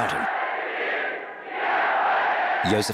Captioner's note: speaking foreign language